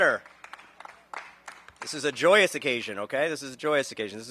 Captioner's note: applause